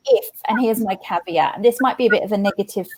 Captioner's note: laughs